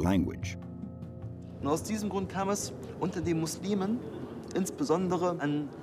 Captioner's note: speaking in a foreign language